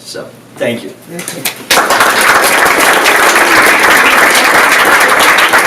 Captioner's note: audience applauds